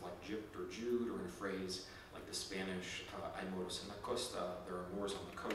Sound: speaking in Spanish

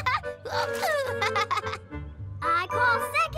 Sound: chuckles

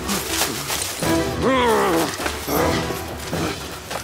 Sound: growling

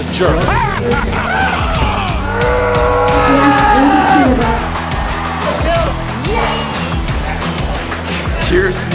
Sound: music, wrestling noises and cheering

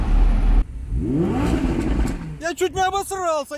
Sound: wrrooom

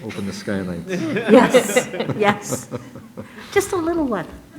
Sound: all laugh

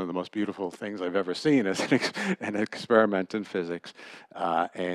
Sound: laughter

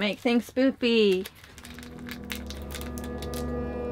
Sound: spoopy sound effect

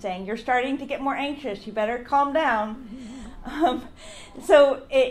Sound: audience laughs and "Aww"s; laughs

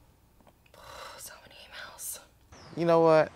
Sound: sigh

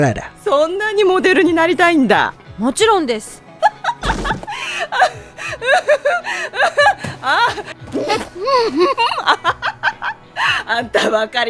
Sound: laughs

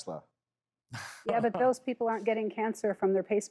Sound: chuckling

